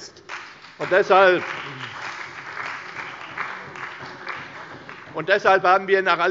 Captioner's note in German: Beifall bei der CDU und dem BÜNDNIS 90/DIE GRÜNEN